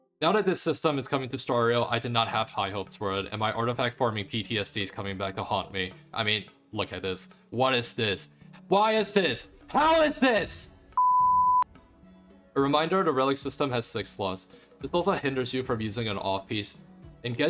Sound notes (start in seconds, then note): 8.3 gasp